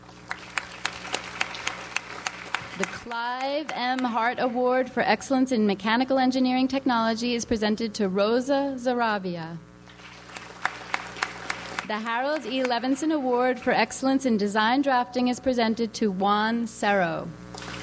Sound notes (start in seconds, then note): 0.0 audience applauds; 9.9 audience applauds